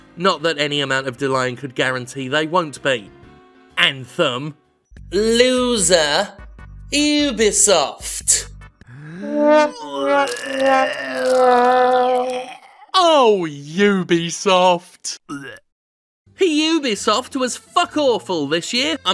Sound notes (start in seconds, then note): 9.0 man gagging; 9.2 somber trumpet music